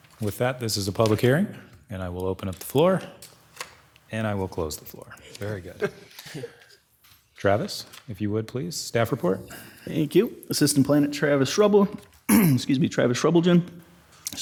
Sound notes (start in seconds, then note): 5.4 people laughing; 12.3 clearing throat